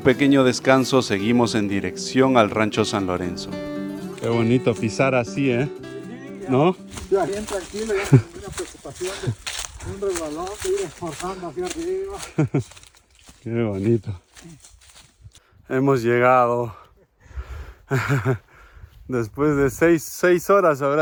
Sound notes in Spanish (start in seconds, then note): 12.2 risas